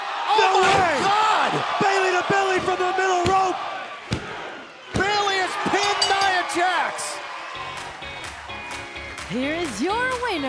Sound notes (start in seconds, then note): 5.8 bell ringing; 9.2 crowd cheering